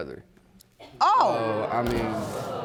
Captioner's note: audience reacts